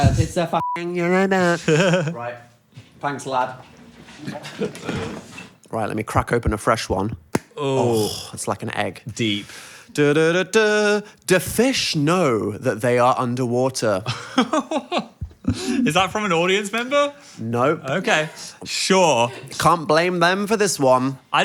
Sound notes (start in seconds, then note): 7.2 ball snaps; 14.0 Phil laughs